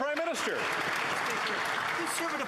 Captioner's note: applause